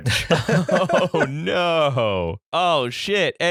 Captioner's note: laughter